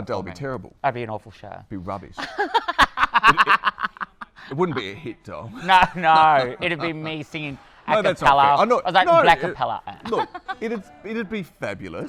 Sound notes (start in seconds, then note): 5.5 laughter